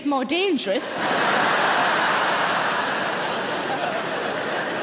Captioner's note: audience laughter